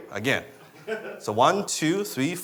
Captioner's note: laughing